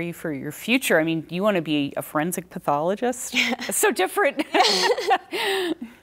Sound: laughter

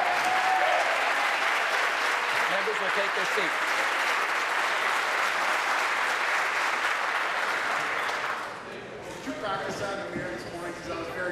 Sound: applause

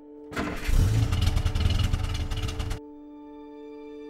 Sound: engine revving

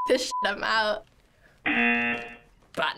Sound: buzzer

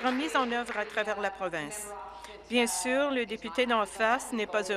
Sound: applause

